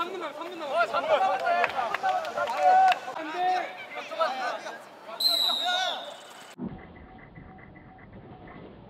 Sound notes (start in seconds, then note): 5.2 whistle